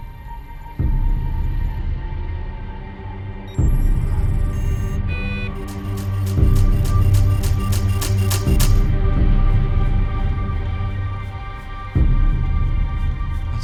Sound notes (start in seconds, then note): 3.6 computers beeping rhythmically; 9.1 tense music continues